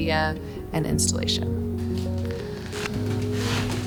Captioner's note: paper rustling